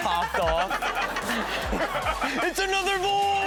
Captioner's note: all laughing